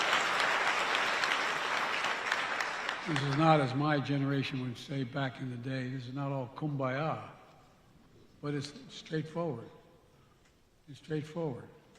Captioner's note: applause